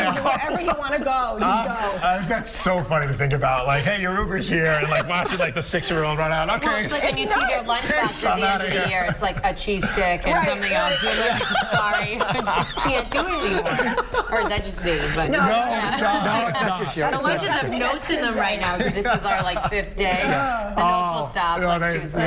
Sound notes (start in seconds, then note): 12.6 laughter; 16.8 laughter